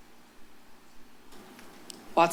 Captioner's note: pause